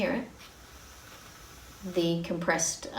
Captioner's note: quiet hissing sound